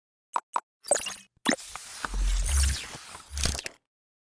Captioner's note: graphic beeping